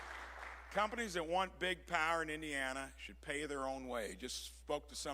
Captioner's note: applause